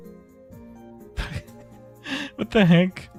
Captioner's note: laughter